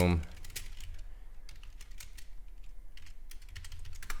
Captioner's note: keyboard clicking